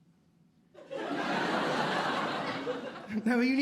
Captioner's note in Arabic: ضحك